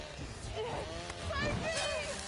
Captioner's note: chainsaw revving; metal clanging; chainsaw whirring then scraping